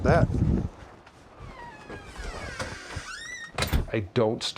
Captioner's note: door hinges squeaking